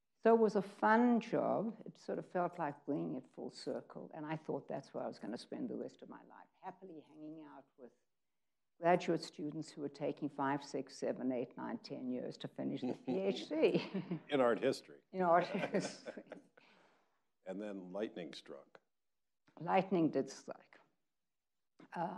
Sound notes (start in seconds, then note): 15.3 chuckles